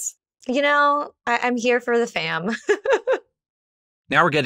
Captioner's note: laughs